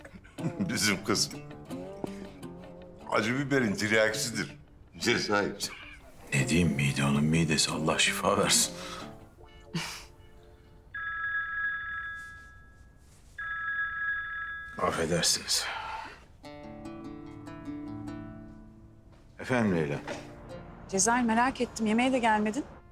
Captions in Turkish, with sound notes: Bizim kız… …acı biberin tiryakisidir. Cezayir. Ne diyeyim, mide onun midesi… …Allah şifa versin. [Gülüyor] [Telefon Çalıyor] Affedersiniz. Efendim Leyla? Cezayir merak ettim, yemeğe de gelmedin.